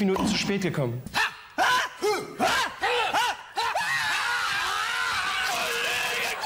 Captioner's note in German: Wildes Geschrei